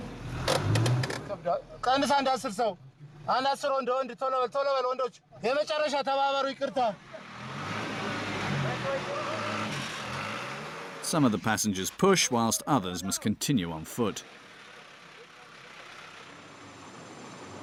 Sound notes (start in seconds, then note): 1.4 speaking in foreign; 7.2 truck engine revving; 14.3 truck engine revving